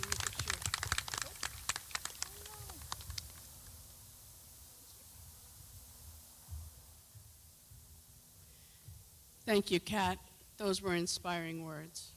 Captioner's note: clapping